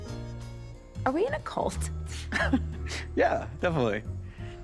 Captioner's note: chuckles